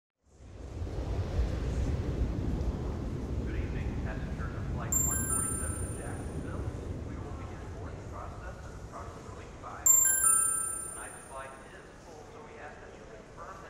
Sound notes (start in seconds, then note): 1.0 jet takes off in the distance; 4.9 mobile text notification; 9.8 another text notification